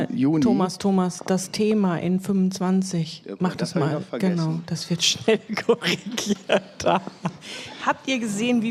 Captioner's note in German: gelächter